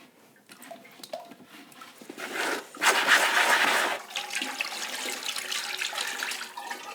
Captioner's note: scrapping and water pouring